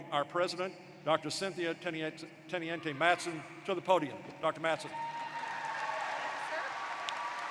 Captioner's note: applause